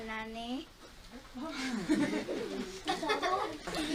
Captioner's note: Magda laughs